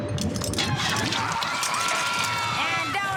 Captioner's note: screaming